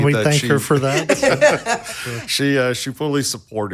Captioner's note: people laughing